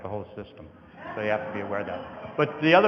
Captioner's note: audience Laughing